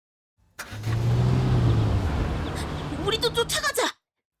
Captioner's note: car speeding off